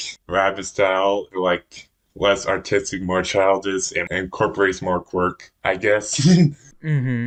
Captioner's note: laughs